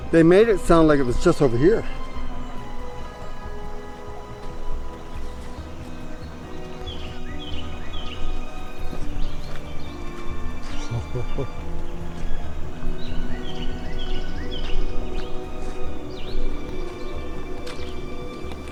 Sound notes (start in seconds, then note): 7.2 birds chirping; 12.3 foreboding music